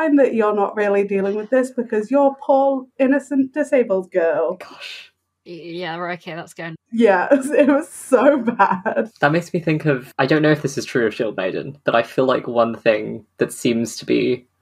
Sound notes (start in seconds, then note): 3.6 whispers; 7.0 laughs